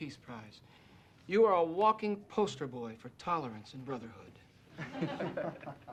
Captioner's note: laughter